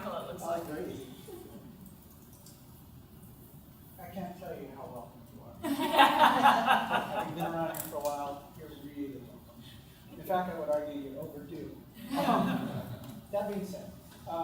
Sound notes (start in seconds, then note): 5.6 laughter